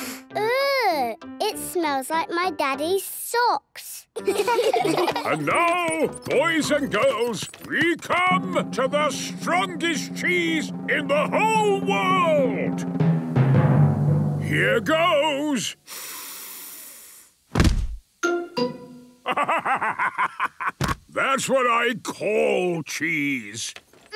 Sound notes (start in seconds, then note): 13.2 dramatic drumming music; 16.6 sniffs; 19.2 bursting laughter